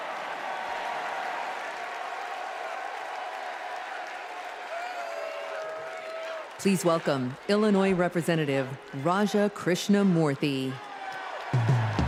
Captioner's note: cheers and applause